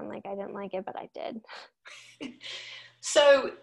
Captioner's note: laughing